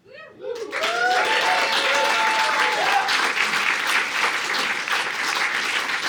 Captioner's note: audience applauding